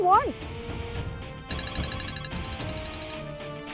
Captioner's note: Phone ringing